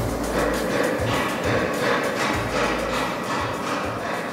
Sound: metal clanging

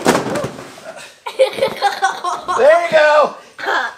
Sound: car crashes; assistant laughs

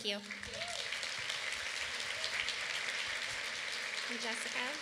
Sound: applause

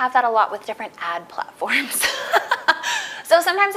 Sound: laughs

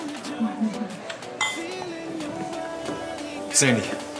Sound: glasses clinking

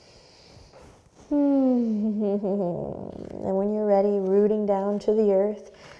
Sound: sighs

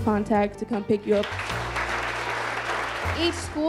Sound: audience applauding

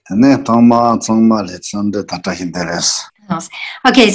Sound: speaks in foreign language

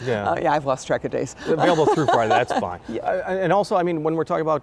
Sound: laughs

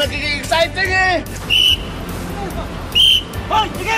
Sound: whistles

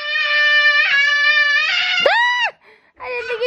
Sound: screaming

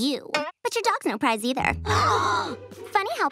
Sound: gasping

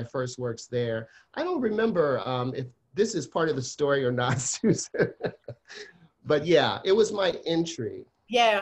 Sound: laughs

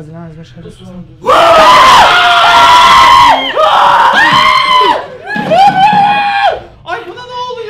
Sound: scream

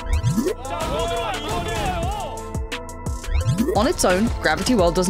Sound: yelling

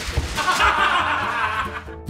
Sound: laughter

